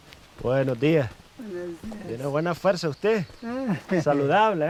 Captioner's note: speaking foreign language